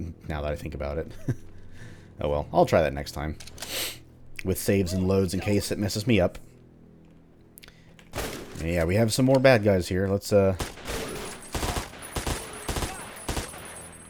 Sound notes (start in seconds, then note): 1.1 chuckles; 5.4 vultures alerted, followed by gunshots